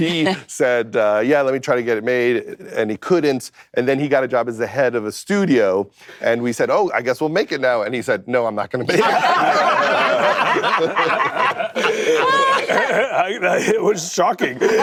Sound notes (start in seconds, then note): 8.9 laughter